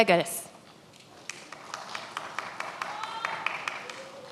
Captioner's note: many applauding